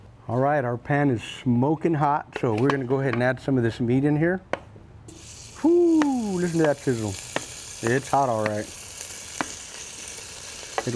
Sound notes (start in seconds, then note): 5.0 meat sizzling